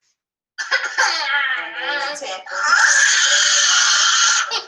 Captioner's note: child screaming